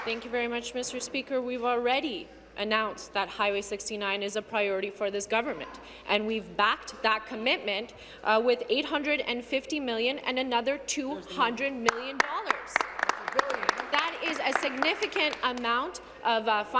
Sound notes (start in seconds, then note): 0.0 applause